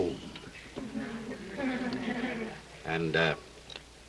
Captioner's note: audience laughs